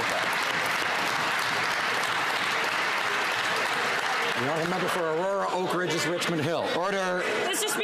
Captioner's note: applause